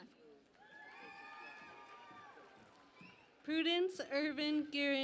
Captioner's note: cheering and Applause